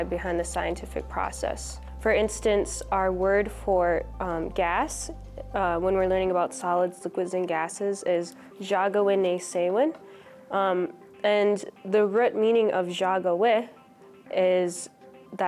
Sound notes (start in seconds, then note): 9.2 speaks Ojibwe; 13.5 speaks Ojibwe